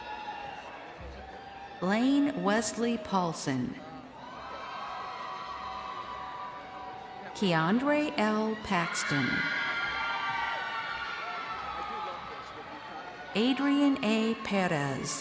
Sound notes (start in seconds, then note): 7.5 crowd cheering